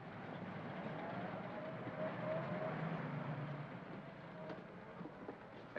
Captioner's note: vehicle rumbles by softly